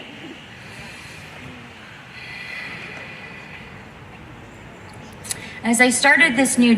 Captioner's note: inhales and exhales deeply